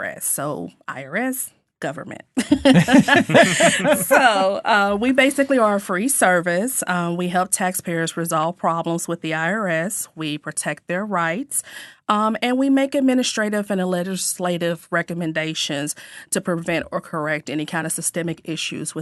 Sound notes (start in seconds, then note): 2.4 all laughing